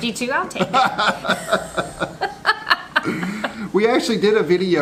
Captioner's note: laughing